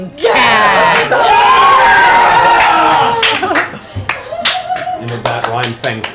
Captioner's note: cheering